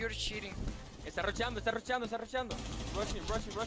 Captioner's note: gamer speaking in foreign language